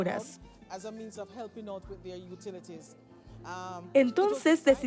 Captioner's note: Hablando idioma extranjero